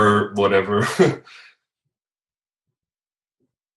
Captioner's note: laughs